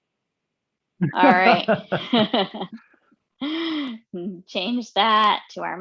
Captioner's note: laughing